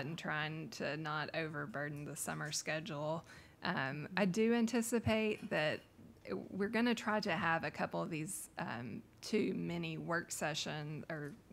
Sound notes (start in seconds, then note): none